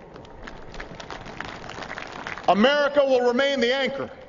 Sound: applause

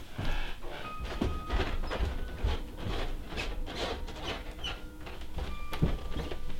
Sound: footsteps

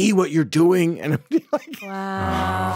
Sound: laughs

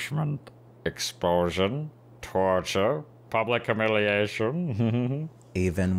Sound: laughing

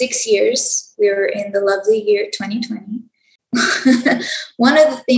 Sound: laughs

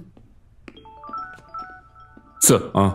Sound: phone Ringing

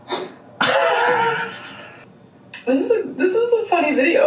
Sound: laughs

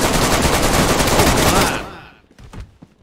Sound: shooting back

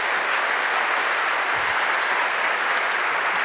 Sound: applause

